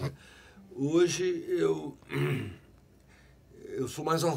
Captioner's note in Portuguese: Pigarreando